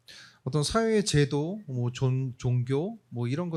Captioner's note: speaking korean